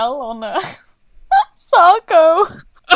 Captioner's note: laughs